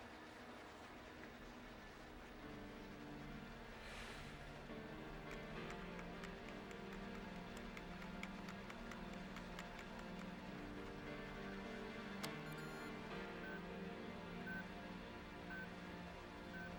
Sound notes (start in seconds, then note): 7.5 keys Tapping; 12.1 beeping